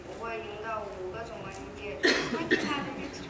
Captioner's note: speaking foreign language